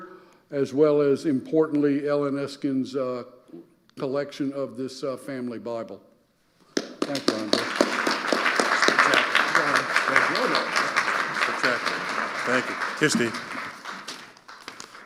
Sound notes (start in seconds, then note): 7.4 audience applauding; 8.4 speaking quietly